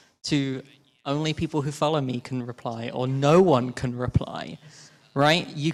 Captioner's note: none